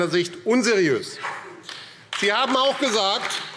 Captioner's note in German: Beifall AfD